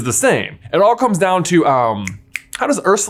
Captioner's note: snaps fingers